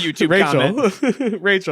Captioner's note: both laugh